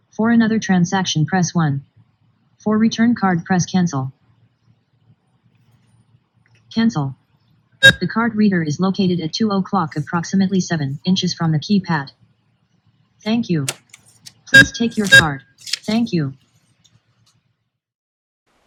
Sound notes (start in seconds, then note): 15.5 beeps